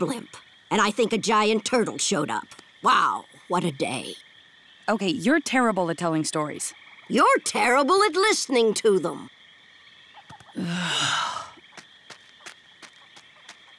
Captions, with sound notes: And I think a giant turtle showed up. Wow, what a day. Okay, you're terrible at telling stories. You're terrible at listening to them. [sighing] [patting]